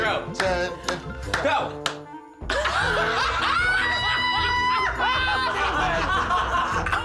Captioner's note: laughter